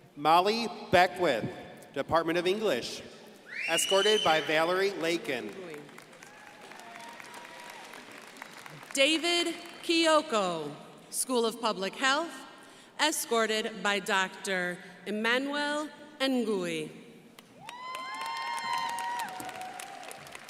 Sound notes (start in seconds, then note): 5.9 crowd applauding; 17.5 crowd applauding